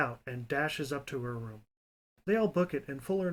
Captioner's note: none